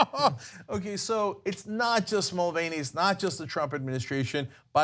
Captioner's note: laughter